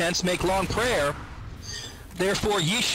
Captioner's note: inhales